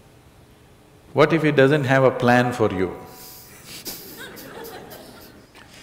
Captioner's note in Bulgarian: смях